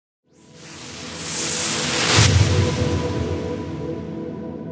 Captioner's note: whooshing